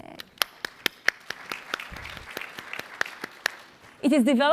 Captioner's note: applause